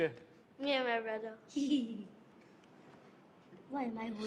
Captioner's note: laughs